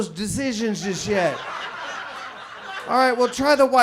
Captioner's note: audience laughs